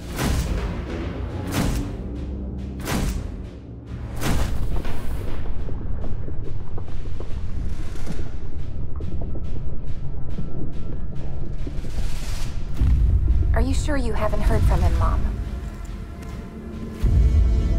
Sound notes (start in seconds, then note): 0.2 ominous music; 5.3 bombs blasting distantly